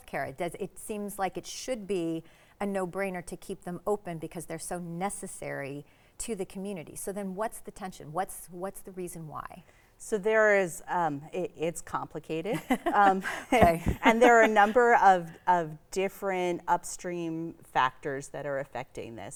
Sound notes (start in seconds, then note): 12.6 laughs